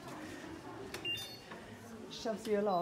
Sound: electronic beeping

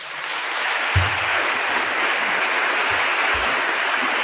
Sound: attendees applauding

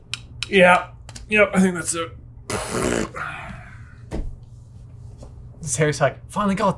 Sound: blows raspberry

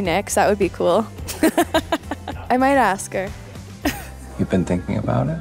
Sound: laughs

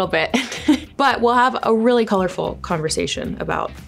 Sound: giggles

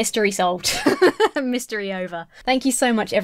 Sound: chuckling

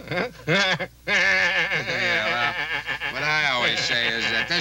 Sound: Homer laughing

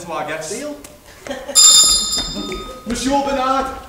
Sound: bell Rings

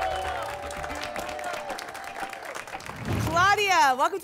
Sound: applause and cheering

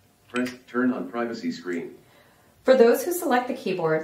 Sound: voiceover

